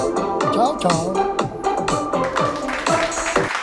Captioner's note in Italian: Applauso